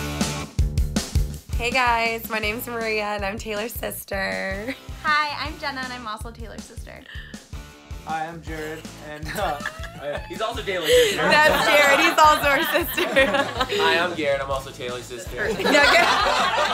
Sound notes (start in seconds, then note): 0.1 upbeat music; 9.2 laughing; 15.4 all laughing